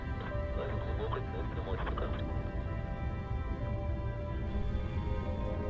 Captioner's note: man speaking in foreign language